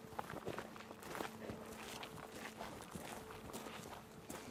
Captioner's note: footsteps thudding